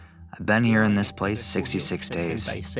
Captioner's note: through translator